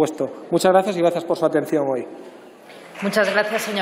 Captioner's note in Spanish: Aplausos